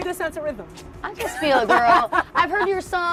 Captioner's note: laughs